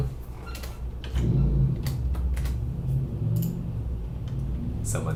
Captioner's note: vroom